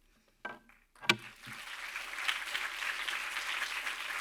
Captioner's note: audience clapping